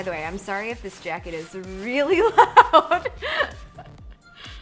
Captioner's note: laughs